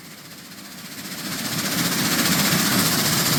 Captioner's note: engine rumbling